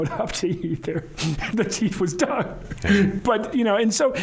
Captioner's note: laughing